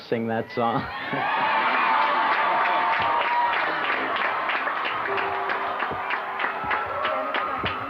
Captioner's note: cheers; piano playing